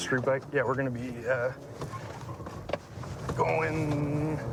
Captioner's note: none